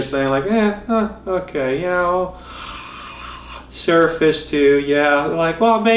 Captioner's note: yawn